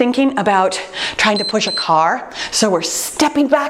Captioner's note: timer beeps